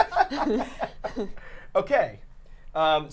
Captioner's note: laughing